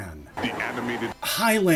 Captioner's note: deep announcer voice